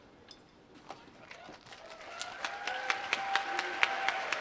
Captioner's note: applause